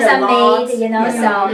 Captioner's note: laughs